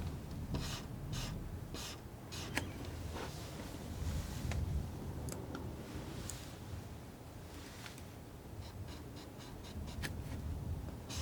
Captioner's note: scratching